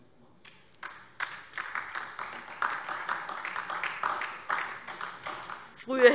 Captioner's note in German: Beifall DIE LINKE